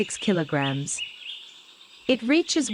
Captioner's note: birds chirping